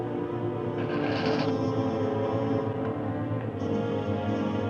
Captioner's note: chain whirring